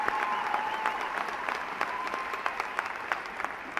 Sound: applause

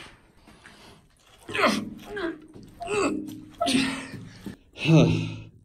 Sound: heavy straining

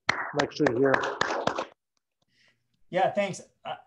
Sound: group applauds

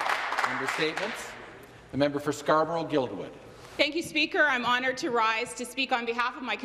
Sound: some Applause

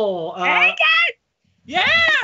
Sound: shouts

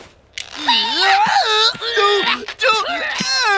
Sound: grunting

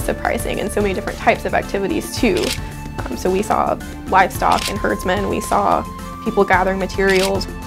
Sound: shutter clicks

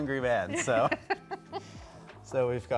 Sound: laughing

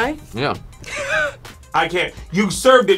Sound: laughs

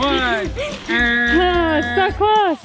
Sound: buzz sound

